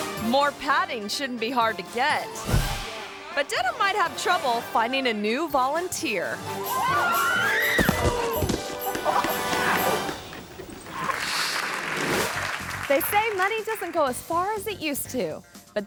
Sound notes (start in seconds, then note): 0.0 upbeat music; 6.7 screams; 7.7 thumps; 10.8 audience claps